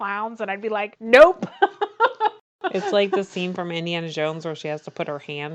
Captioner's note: laughs